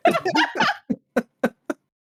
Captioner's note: laughing